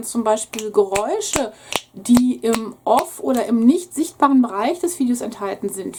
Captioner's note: snaps his fingers